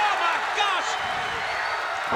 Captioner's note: crowd cheering